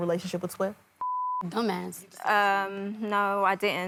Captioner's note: beep